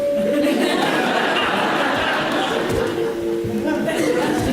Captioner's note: audience laughs